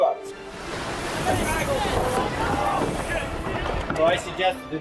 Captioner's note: group chattering